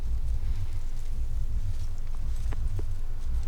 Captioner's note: leaves rustling